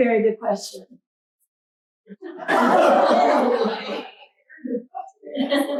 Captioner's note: laughter